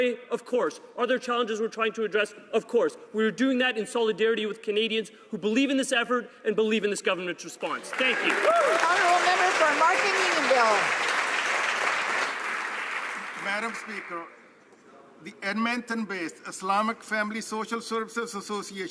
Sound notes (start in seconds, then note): 12.4 some Applause